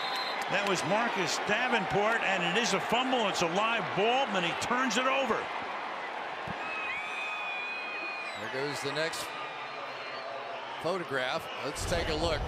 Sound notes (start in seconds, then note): 0.0 whistle; 7.3 cheering